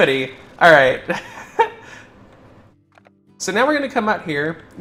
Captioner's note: laugh